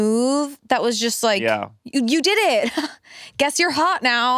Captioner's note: laughs